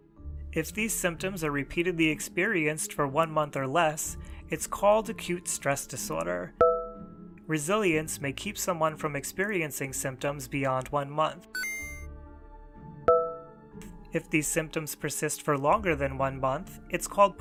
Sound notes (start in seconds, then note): 11.5 chime